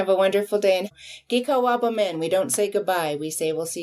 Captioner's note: speaks in foreign language